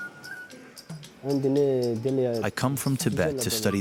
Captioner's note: painter speaks foreign language